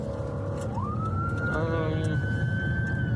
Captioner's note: siren wailing